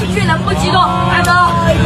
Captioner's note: crowd erupts